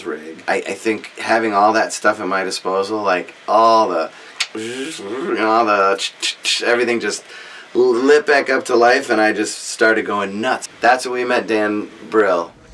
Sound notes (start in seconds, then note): 4.4 makes machine noises